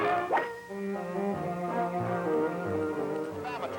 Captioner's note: whacking; light music